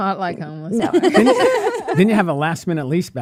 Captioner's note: laughs